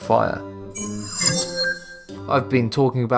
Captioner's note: sharp chiming